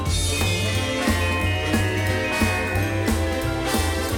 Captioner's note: lips smooching; bells jingling